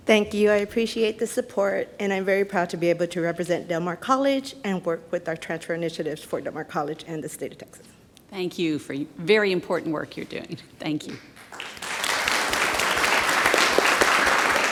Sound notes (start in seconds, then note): 11.3 audience claps